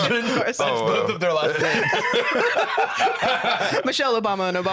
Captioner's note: laughs; all laughing